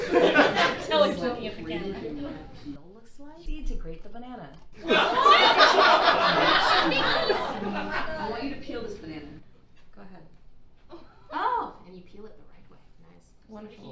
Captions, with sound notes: - I think we should see what grated banana peel looks like - You need to grate the banana. (audience laughing) - Hmmm. -Hmmm. - I want you to peel this banana. Go ahead. - Oh. - And you peel it the right way. - Wonderful.